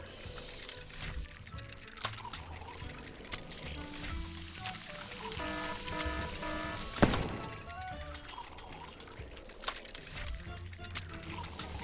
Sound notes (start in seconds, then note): 0.2 gears cranking; 4.7 alarm buzzing; 7.0 exploding